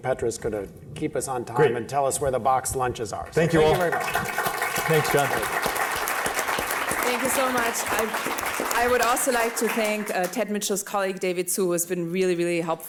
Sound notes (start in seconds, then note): 6.2 applause